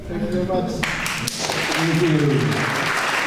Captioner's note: clapping